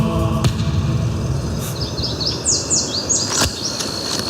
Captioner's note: birds chirping